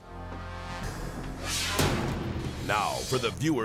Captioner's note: edgy dramatic music; screen exploding